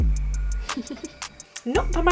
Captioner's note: giggle